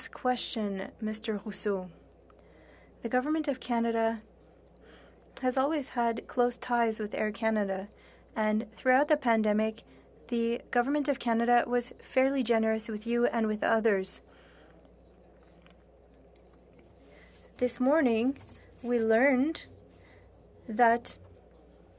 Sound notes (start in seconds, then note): 6.3 speaking French